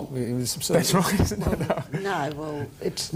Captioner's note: laughs